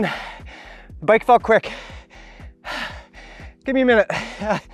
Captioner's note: continues breathing heavily